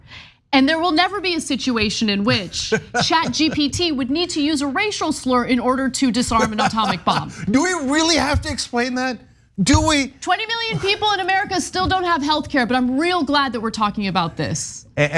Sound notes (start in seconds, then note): 6.2 laugh